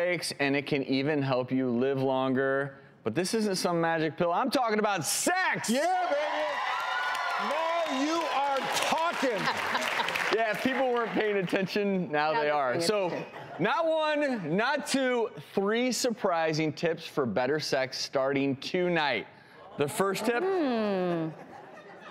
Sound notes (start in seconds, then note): 7.3 audience cheers